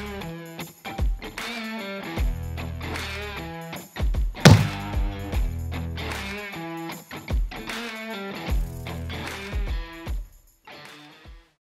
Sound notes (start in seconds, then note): 0.2 energetic guitar music; 4.4 stamp stamping